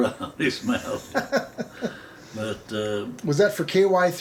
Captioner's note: laughing